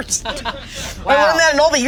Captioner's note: all laughing